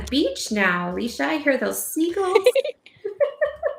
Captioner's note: laughs